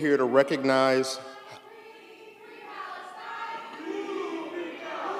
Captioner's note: background chanting, “Free, free Palestine!”